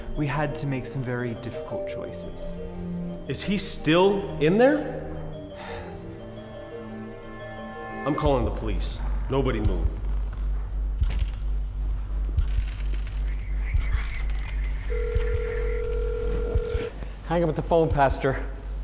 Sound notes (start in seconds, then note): 8.1 suspenseful music; 14.8 phone ringing